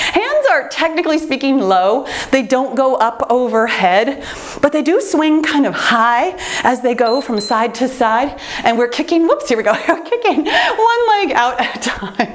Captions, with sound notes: Hands are technically speaking low. They don't go up overhead but they do swing kind of high, (timer beeps) as they go from side to side and we're kicking, whoops, here we go, we're kicking one leg at a time.